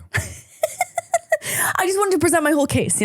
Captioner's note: laughing